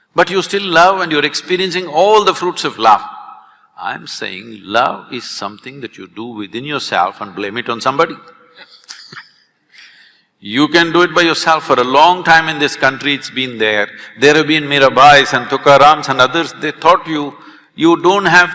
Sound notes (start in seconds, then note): 8.5 both laugh